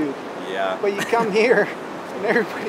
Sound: laughs

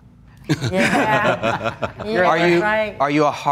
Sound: laughs

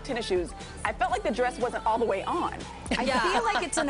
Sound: laughter

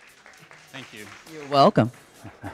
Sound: audience applauding

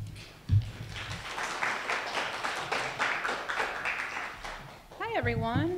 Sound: audience applauding

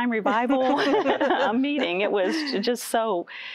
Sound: laughter

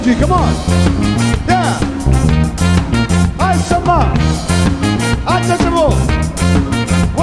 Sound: speaks foreign language

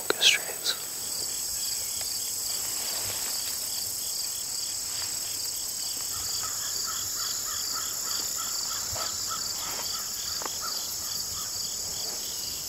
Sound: cicadas humming

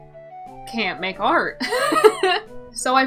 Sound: laughs

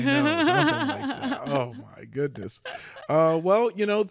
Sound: laughs

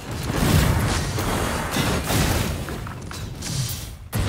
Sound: guns firing

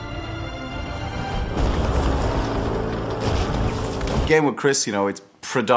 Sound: building exploding

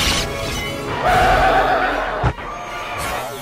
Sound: roaring

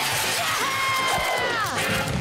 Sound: screaming

